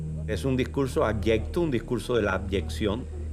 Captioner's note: speaking Spanish